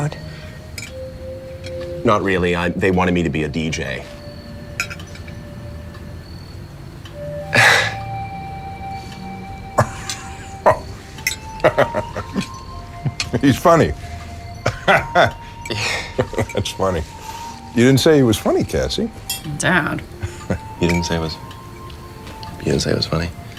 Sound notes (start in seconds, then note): 6.3 As Stanley, laughter; 15.7 laughter